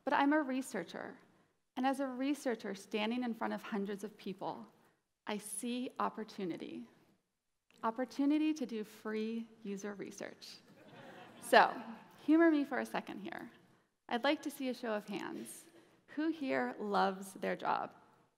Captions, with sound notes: but I'm a researcher, and as a researcher standing in front of hundreds of people, I see opportunity, opportunity to do free user research. (audience laughing) So, humor me for a second here. I'd like to see a show of hands. Who here loves their job?